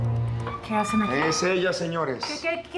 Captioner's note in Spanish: sonido al abrir la puerta